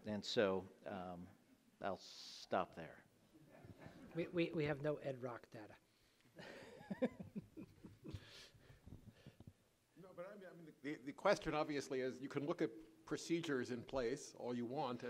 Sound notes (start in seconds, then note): 3.1 audience laughs; 6.4 laughing